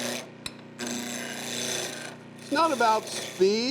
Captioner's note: metal scraping